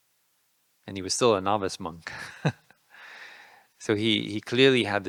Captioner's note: laughing